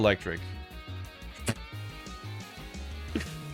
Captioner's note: scoffing